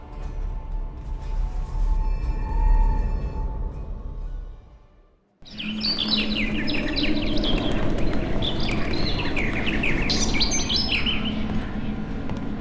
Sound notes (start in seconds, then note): 0.1 faint humming grows louder; 5.4 swallow chirping